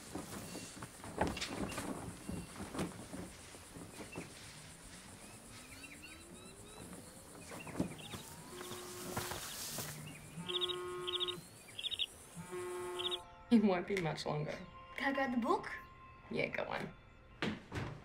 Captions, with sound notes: [phone buzzing] [buzzing] It won't be much longer. Can I grab the book? Yeah, go on.